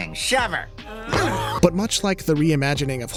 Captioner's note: both grunting; gasps